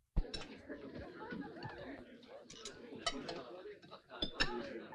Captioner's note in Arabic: الضيوف يتحدثون; أصوات ارتطام الأطباق